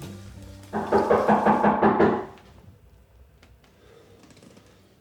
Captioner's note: Christine knocking